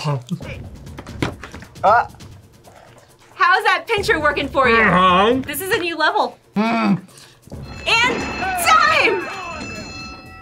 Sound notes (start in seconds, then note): 7.6 bell rings